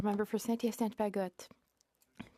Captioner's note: speaking in French